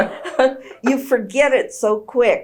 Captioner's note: laughs